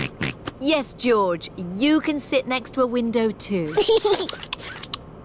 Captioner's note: snorts; giggles